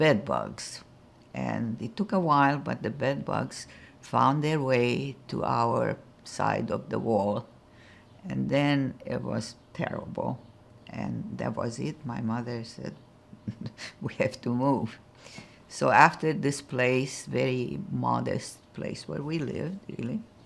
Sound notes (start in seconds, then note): 13.4 laughing